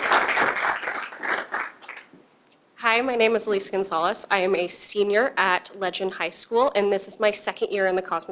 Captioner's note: applause